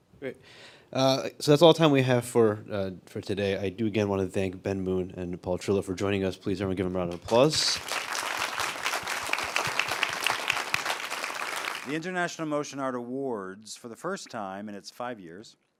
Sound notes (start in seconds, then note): 7.3 audience applauds